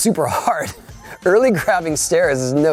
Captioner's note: laughing